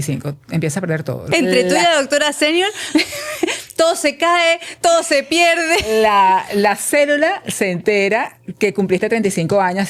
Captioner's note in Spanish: risas